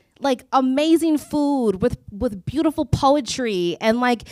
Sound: none

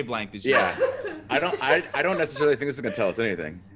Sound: laugh

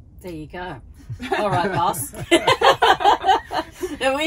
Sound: laughing

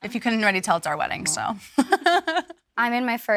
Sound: laughs

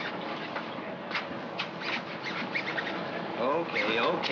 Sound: zipper zipping

